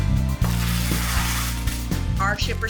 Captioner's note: tape stretching